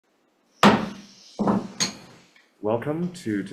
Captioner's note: gavel bangs